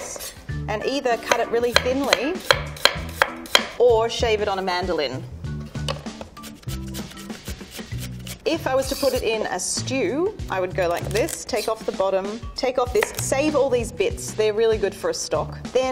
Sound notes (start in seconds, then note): 1.7 knife tapping against wooden board; 6.4 celery grinding on mandolin